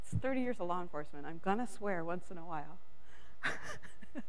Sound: laughs

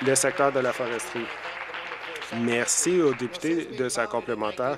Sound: applause

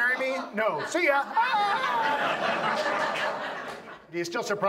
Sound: yells; audience laughs

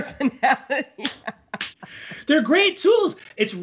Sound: both laughing

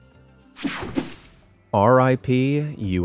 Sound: screen whooshing

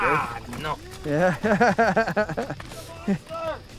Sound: laughter

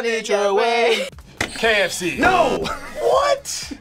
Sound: buzzer rings; laughs

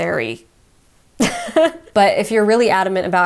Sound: laughs

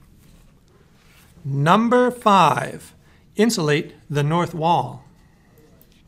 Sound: voiceover

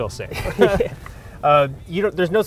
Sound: both laugh

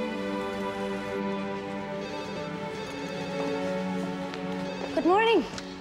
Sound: phone ringing

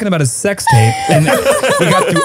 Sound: everyone laughs

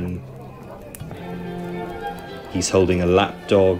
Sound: people chattering; lively music

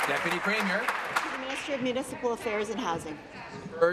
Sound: applause

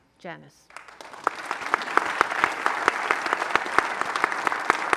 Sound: audience applauding

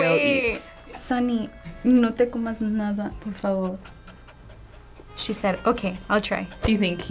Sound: speaking Spanish

